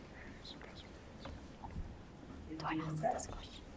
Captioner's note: students whisper